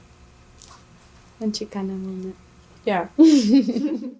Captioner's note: laughter